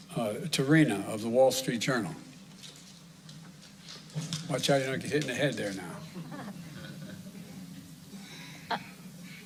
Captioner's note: laughter